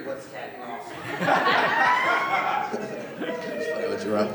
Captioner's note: laughter